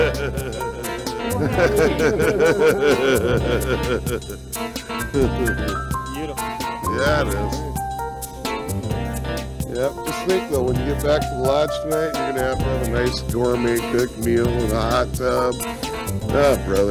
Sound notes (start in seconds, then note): 3.3 laughter